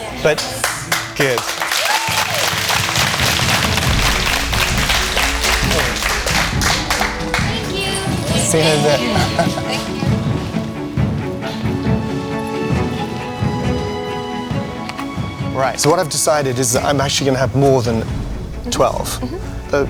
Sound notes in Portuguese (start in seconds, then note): 0.2 Aplausos